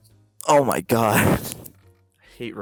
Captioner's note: laughs